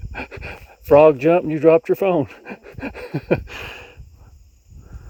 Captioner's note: chuckles; chuckles